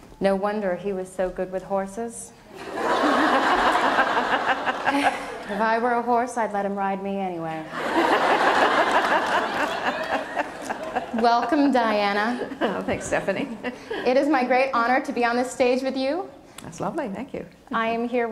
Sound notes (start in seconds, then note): 2.5 laughter; 7.7 laughter